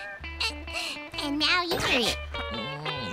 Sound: gasps

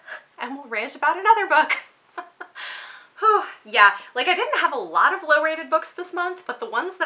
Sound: laughs

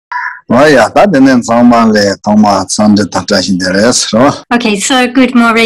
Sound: foreign language

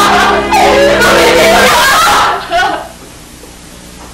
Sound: crying

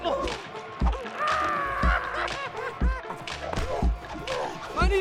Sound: screaming; laughter

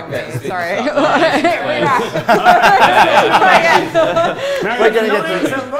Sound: general hubbub and amusement

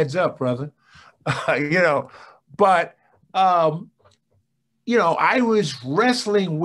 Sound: chuckles

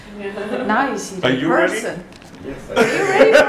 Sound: laughs

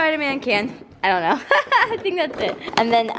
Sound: laughs

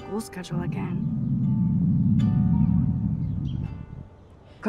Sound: Max's stomach growling

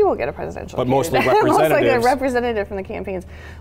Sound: laughs

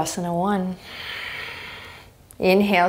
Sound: exhaling strongly

